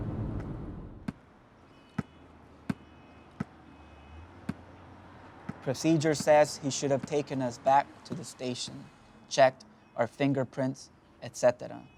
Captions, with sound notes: (ball bouncing) - Procedure says he should have taken us back to the station, checked our fingerprints, etcetera.